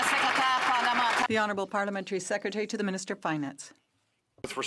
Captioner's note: some Applause